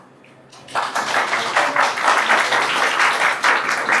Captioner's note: applause